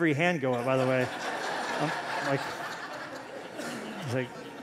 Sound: laughter

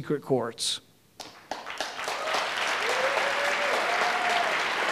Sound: audience applauding

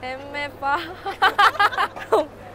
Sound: laughing

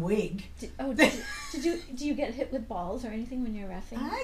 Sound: voiceover

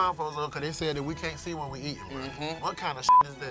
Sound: beep

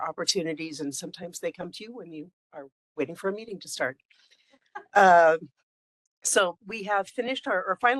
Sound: laughing

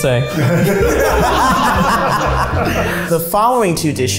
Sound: all laugh

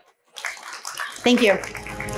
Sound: audience applauding

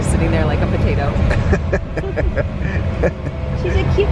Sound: laughs

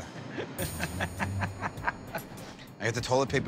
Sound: laughs

